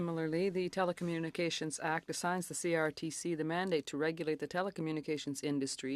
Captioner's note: speaking French